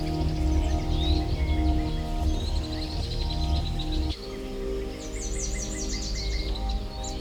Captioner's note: birds chirping; soothing music continues